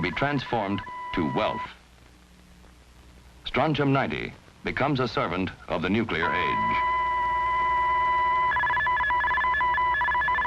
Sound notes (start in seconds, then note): 6.0 telegraph beeping